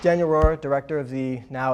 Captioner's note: air whooshes